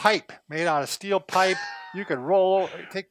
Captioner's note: laughing